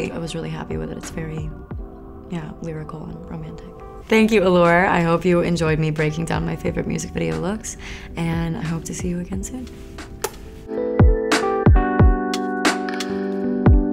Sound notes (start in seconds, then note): 10.0 smooches; 11.0 pleasant music